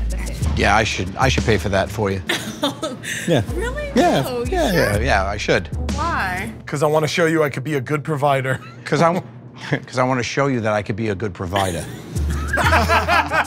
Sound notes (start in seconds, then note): 2.3 laughs